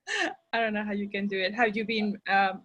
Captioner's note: chuckles